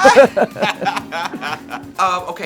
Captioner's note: both laughing